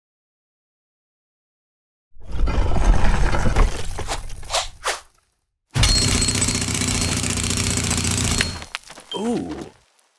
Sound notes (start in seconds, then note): 2.2 stone scraping; 5.8 jackhammer drilling